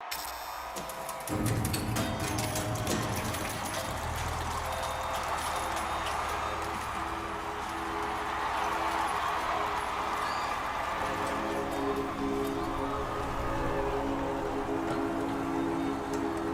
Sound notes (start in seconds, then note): 0.1 lights Flicker On; 6.8 crowd Cheering; 12.9 choir Hums